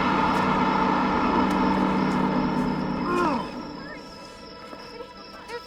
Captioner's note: groaning